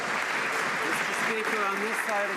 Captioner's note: some Applause